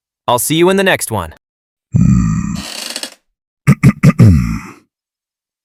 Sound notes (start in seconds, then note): 2.5 chair creaks; 3.6 clears throat